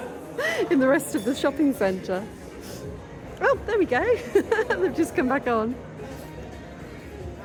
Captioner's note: laughing